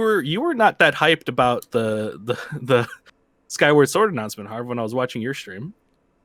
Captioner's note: laughs